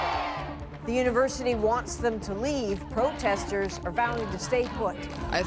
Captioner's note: chanting